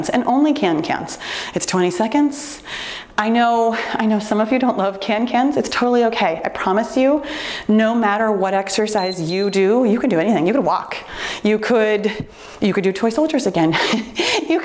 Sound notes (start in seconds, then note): 8.8 timer beeps